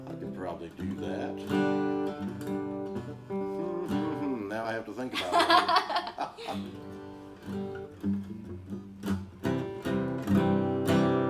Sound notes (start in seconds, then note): 2.4 light guitar strumming; 4.0 hums; 5.1 laughs